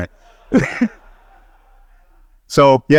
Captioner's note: he laughs